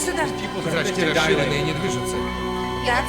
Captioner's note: flatline tone